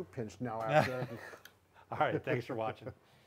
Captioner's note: chuckling